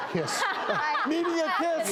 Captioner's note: laughing